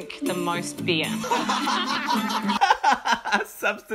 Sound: aggressive laughing

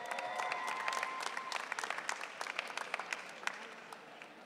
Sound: audience cheering

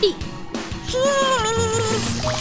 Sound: squeaking

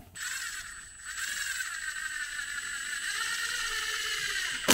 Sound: drill whirring

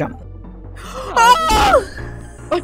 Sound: scream in terror

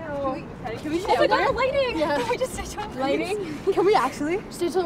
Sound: overlapping chatter

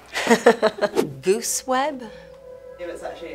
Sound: Jessica laughing

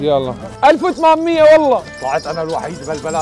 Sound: shouting

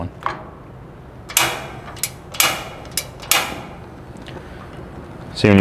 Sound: gas knob clinking

